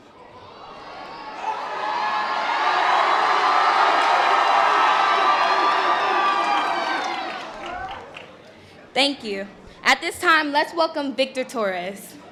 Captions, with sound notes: (members of the audience cheering) Thank you. At this time, let's welcome Victor Torres.